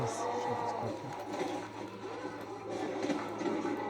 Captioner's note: cries of the zombies